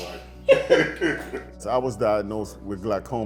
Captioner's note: both chuckle